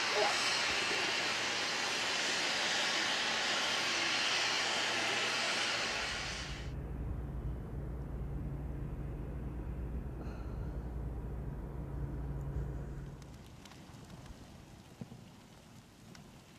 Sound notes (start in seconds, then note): 10.2 Raina sighs; 12.4 fire crackling